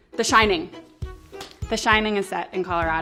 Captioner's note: slaps leg